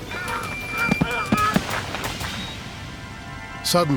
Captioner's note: grunts